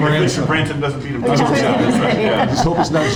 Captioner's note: laughs